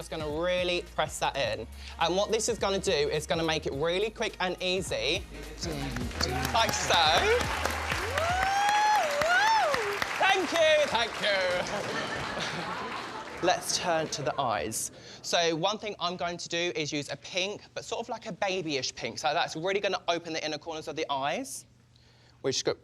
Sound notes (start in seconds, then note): 9.5 applause; 11.5 laughter